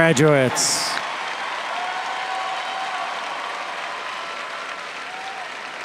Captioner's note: audience cheers and applauds